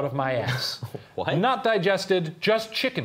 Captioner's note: laughing